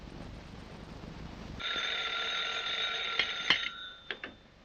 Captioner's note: telephone ringing